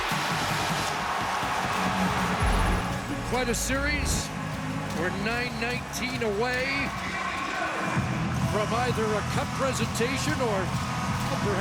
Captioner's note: applause